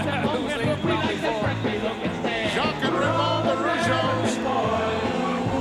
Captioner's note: laugh